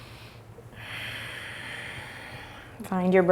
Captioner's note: exhales; inhales